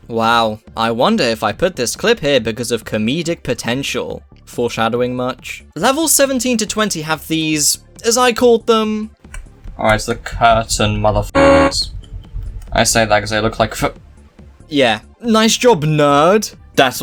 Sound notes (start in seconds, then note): none